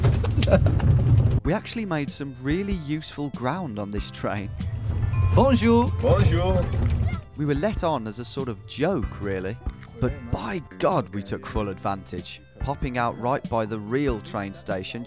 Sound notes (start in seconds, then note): 0.3 both laughing; 4.8 speaking in a foreign language